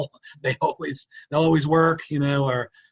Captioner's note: chuckles